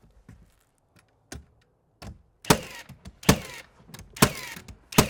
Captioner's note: nail gun clicking